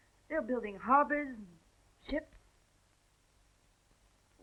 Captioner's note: none